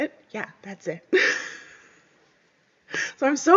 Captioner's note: laughs